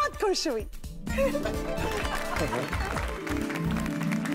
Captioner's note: applauding